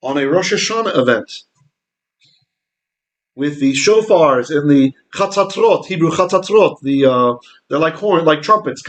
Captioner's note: Hebrew